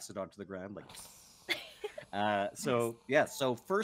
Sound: blows

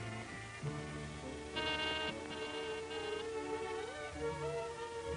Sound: doorbell rings

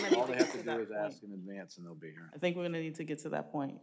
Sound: applause

